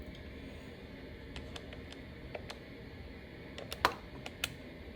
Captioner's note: phone cable rattling; buttons clicking